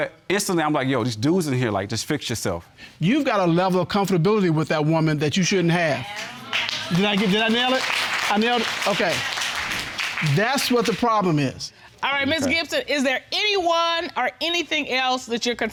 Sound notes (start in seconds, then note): 6.0 applause